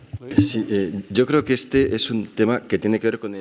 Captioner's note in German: spanisch